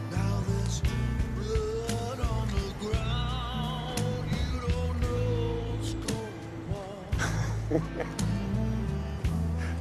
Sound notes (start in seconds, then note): 7.2 laughing